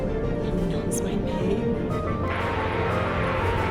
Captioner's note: under her breath